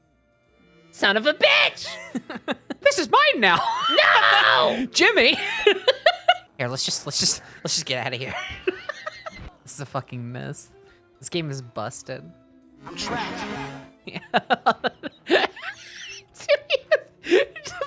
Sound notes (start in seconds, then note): 1.1 Spongebob voice; 3.0 laughing; 4.3 Spongebob voice; 6.1 laughing; 8.4 laughing; 14.1 laughing